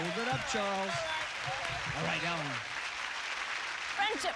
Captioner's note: applause